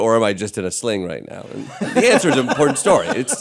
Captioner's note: laughter